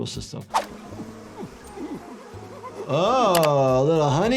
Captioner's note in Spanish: abejas zumbando